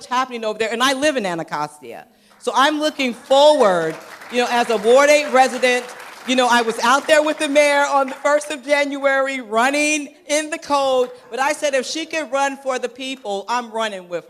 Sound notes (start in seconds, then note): 2.3 applause